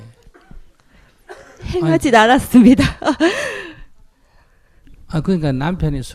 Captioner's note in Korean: 웃음